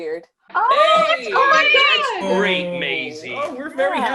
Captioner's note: everyone cheering